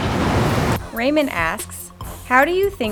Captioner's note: hip-hop music; voiceover